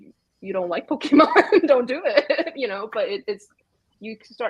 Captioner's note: laughs